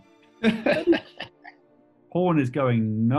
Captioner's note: laughing